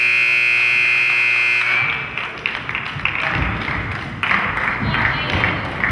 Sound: buzzer goes off; crowd claps

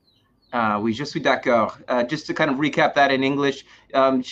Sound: speaking french

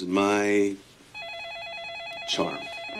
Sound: phone rings

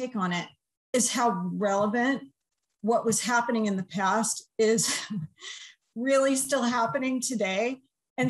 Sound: laughter

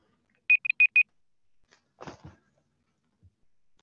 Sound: timer beeps

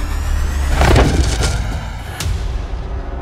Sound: banging

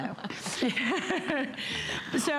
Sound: laughter

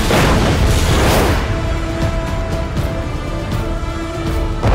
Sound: explosion booms

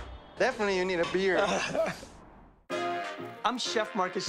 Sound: laughs

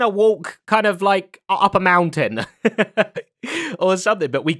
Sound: chuckles

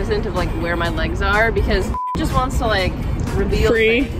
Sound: beep

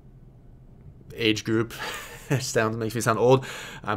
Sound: chuckles

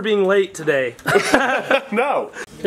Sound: laughs

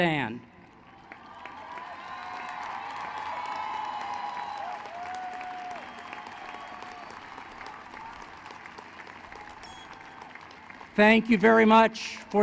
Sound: applause

